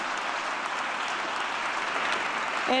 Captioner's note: applause